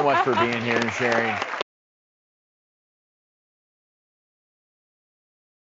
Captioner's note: audience claps